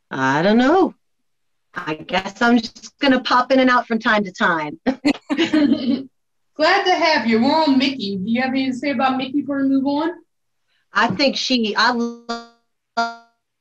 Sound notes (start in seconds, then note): 4.8 belly laughing